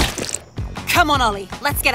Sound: gun blasting; banana splattering

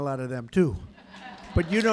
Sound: laughter and applause

